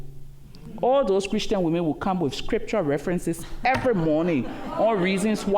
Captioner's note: laughter